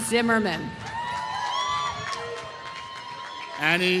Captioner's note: applause